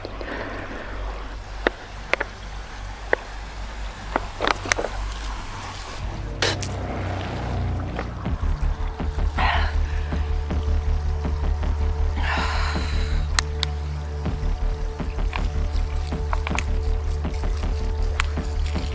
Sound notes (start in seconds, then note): 6.1 foreboding music intensifies; 9.4 Gabriel catches her breath; 15.3 water splashing the ground